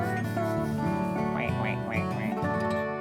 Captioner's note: quacks